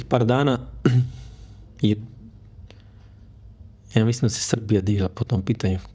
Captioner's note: he coughs